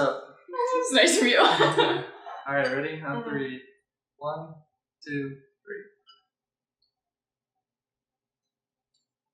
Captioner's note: laughter